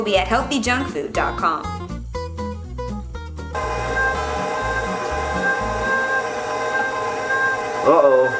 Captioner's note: meat grinding